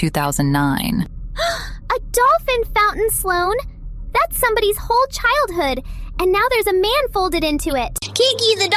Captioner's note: gasp